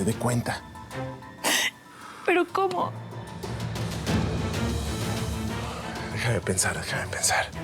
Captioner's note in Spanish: sollozos